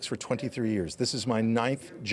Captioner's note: none